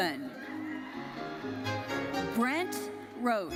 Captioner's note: audience cheering and applauding